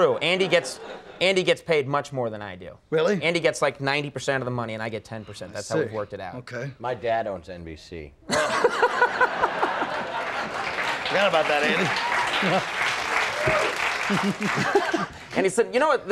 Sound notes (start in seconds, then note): 8.3 Conan laughing; 11.2 audience laughing